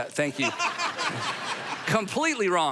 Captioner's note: crowd laughing